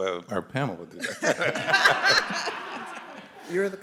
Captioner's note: laughter